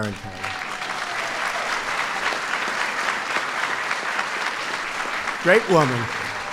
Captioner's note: applause